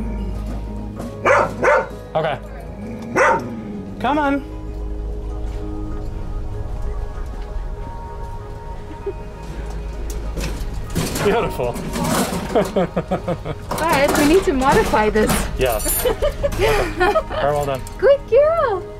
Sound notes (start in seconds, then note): 1.2 barks; 9.0 giggle; 12.4 laughter; 15.9 laughter